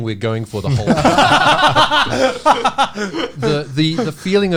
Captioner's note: all laughing